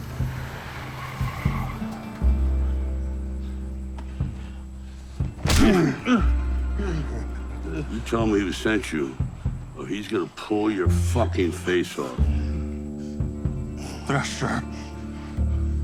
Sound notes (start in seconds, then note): 0.0 tires screeching in background; 5.3 fist thudding; 5.6 man grunting